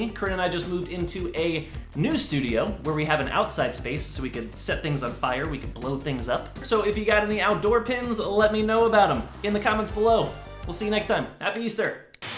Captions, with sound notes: Corinne and I just moved into a new studio, where we have an outside space. So, we can set things on fire, we can blow things up. So, if you got any outdoor pins, let me know about them in the comments below. We'll see you next time. *Scissor cutting noise*. Happy Easter! *Static*